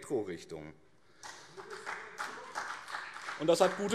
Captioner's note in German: Beifall BÜNDNIS 90/DIE GRÜNEN